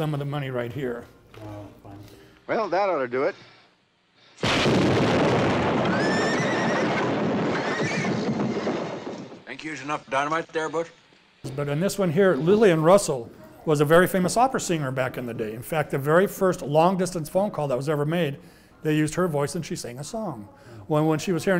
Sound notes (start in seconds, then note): 4.4 explosion; 5.9 horse crying